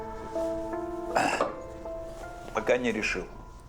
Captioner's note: grunts